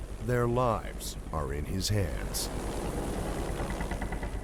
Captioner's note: voiceover